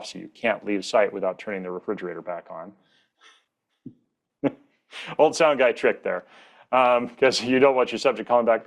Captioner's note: chuckles